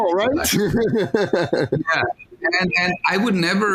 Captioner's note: laughing